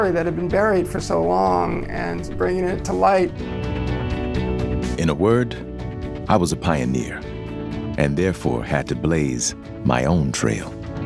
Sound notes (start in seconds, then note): 5.1 voiceover